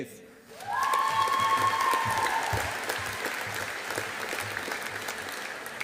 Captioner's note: audience applauding